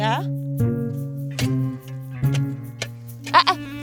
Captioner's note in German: skurrile, fröhliche Musik; Schaufelklappern